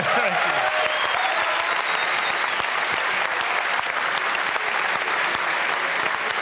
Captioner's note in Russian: публика аплодирует